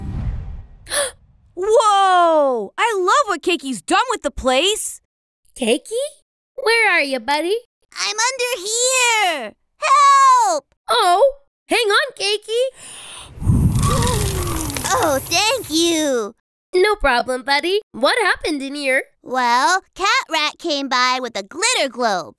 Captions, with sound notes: Whoa. I love what Cakey's done with the place. Cakey, where are you, buddy? I'm under here. Help. Oh, hang on, Cakey. [BLOWING] Oh, thank you. No problem, buddy. What happened in here? Well, Catrat came by with a glitter globe.